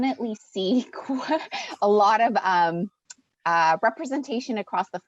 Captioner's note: chuckles